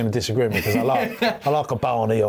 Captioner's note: laughs